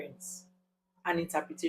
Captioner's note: paause